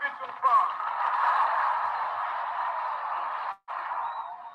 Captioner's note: audience applauding